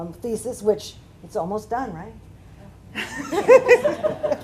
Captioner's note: laughter